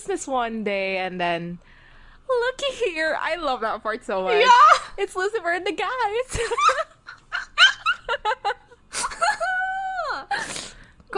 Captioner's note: both laughing